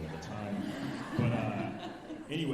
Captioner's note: alumni laughing